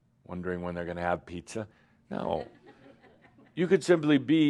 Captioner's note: a few giggles